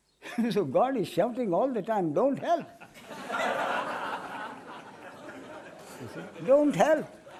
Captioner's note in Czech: smích